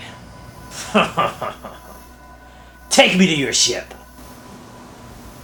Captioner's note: Varos laughs